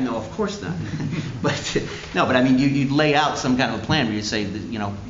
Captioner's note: laughter